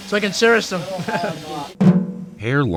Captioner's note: laughs